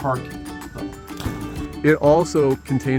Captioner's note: water splashing